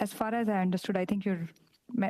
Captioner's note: speaking French